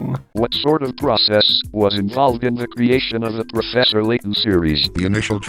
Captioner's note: satoru iwata with a robot voice; with a robot voice